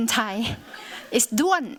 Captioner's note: laughter